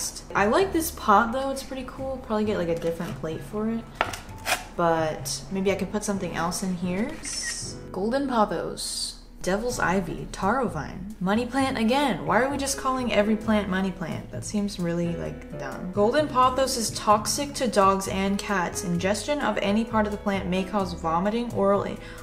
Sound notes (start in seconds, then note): 7.2 clicks camera